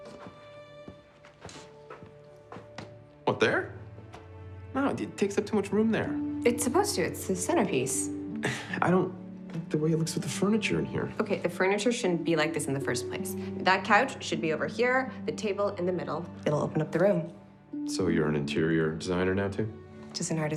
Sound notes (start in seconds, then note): 8.4 sighing